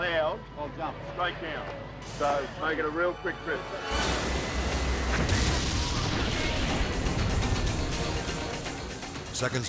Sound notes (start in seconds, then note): 3.6 intense music; 4.9 explosion booms